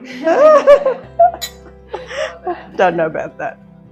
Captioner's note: laughs